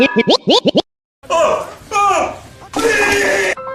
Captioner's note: gagging; transition music